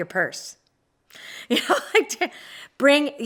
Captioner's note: laughs